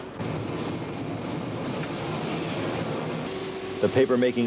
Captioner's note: forklift running